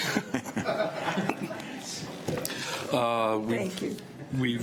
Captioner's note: audience laughs